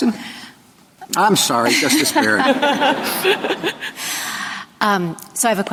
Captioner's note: laughter